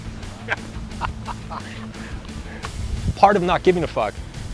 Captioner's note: both laughing